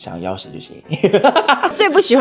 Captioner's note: laughs